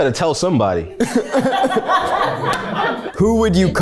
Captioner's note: everyone laughs